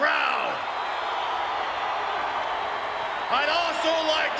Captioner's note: crowd cheering